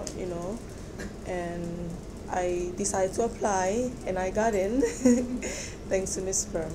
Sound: laughs

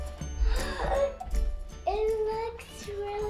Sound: gasps

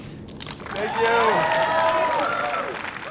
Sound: applause

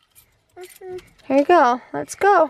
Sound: keys clinking

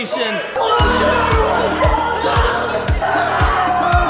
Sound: cheering

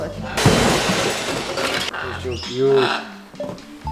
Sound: loud crashing

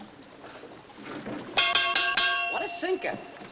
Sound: clanging

